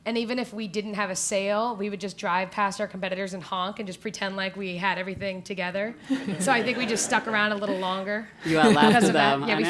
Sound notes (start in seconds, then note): 6.0 laugh